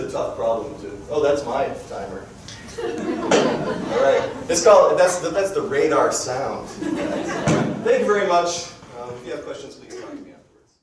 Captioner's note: crowd chuckling